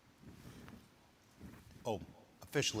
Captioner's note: lectern creaking